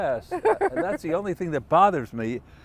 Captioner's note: laughter